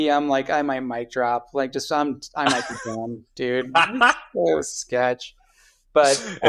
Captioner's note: <Laugh>